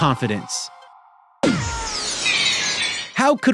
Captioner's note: wailing